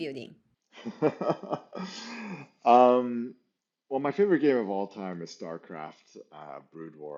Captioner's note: laughs